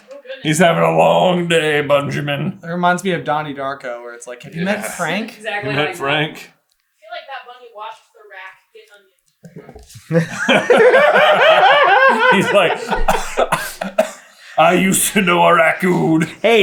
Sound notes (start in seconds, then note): 9.8 team laughter; 10.0 including giggling delightfully